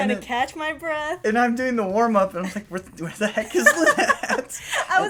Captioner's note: laughter